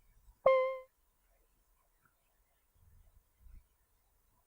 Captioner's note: beeping sound